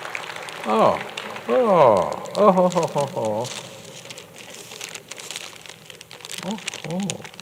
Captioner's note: applause